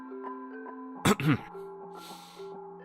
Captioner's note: sad music plays; clears throat